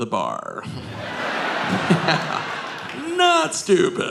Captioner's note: audience laughing